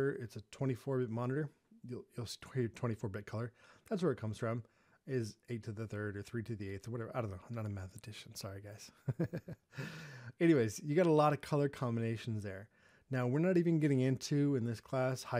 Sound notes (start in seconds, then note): 9.1 laughing